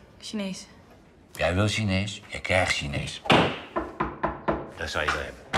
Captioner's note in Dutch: geklop